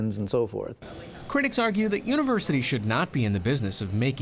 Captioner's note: voice-over